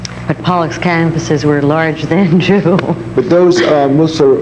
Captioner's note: laughs